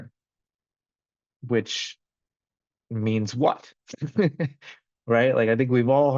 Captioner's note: laughs